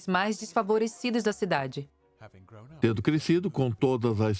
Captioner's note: voiceover